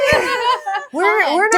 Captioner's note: laughing